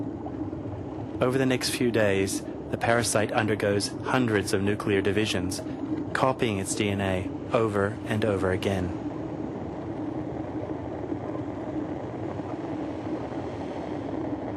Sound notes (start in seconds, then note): 6.0 rumbling